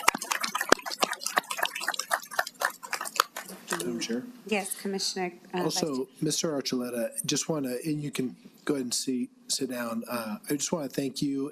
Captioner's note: applause